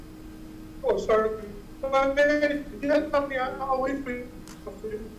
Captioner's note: audio cutting out